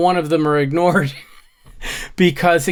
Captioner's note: laughs